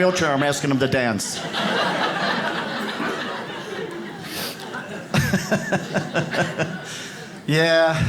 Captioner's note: audience laughs